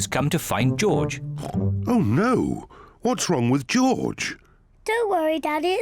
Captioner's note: snorts